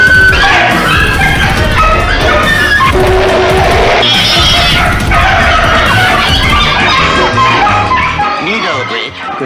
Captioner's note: dog & Cats Bark & Meow